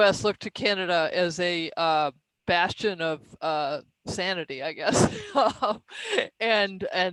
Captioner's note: laughs